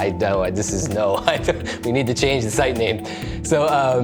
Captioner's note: chuckles